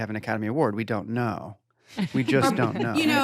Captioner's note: laughter